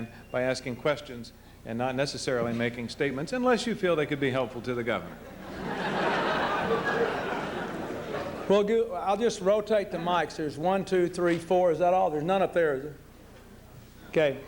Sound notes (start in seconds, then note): 5.2 laughter